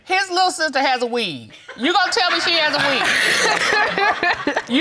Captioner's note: audience laughs